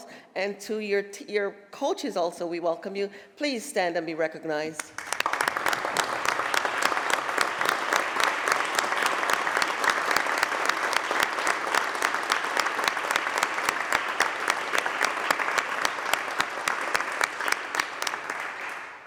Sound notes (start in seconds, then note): 4.8 applause